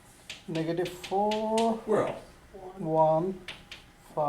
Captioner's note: voiceover